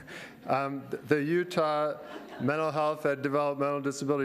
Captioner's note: laughter